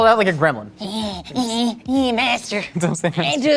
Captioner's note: grunting